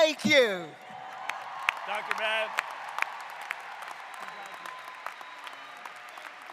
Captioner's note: applause